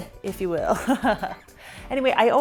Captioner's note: laughing